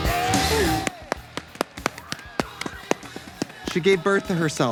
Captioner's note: upbeat rock music; both clapping